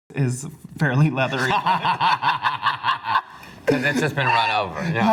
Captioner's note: laugh